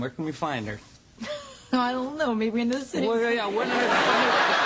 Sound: laughs

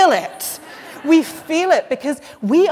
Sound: laughter

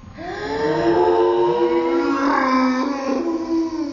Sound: gasps

